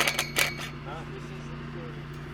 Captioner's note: drill buzzes